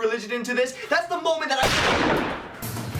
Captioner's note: gun shot